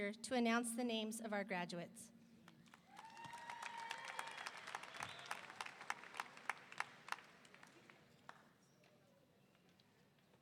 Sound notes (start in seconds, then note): 2.9 audience applauding; 3.0 audience cheering